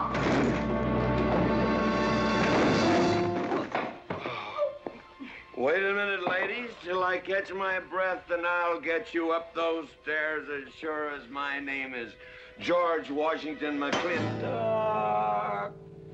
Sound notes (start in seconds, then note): 0.0 tumbling down stairs; 13.9 whack